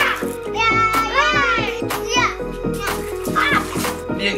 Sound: group exclaiming

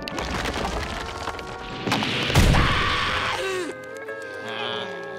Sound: screaming

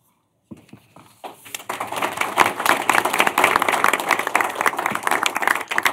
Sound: applause

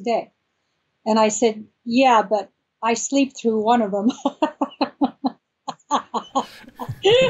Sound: laughs

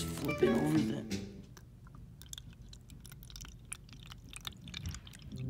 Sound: ASMR Toilet water coming in Sounds

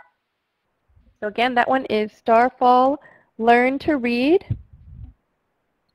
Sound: voiceover

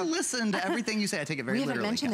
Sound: laughter

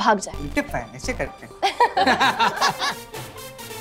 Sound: laughter

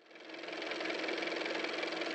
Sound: car motor

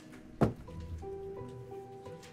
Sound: faint thud

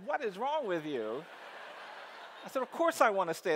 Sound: audience laughs

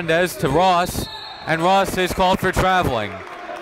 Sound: whistle blows

